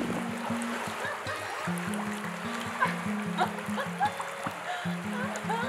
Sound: laughter

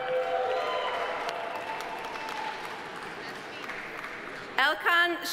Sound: audience cheering; audience applauding

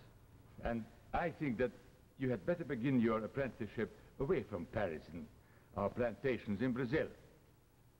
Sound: Charles' voice

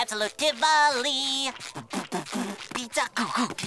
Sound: beat boxing

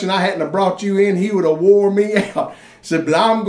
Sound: laughs

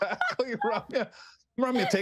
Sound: laughter

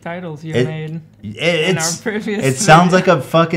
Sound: laughs

